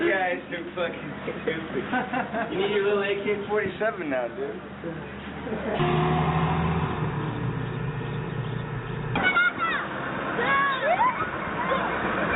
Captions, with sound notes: - You guys are fuckin' crazy. You need your little AK-47 now, dude. (engine rumbling) (citizens shouting)